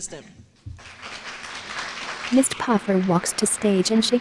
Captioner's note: applause